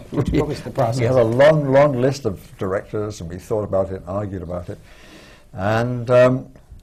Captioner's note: laughter